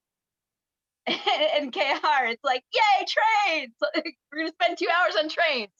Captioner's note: laughs